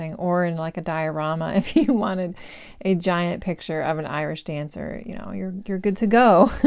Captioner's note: giggle